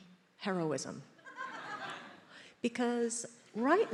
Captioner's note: attendees laughs